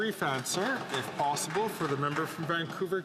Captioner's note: speaking Indigenous Language